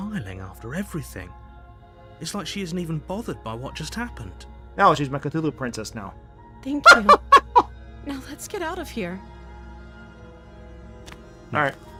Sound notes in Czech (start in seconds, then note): 6.8 smích